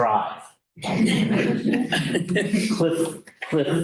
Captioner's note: laughter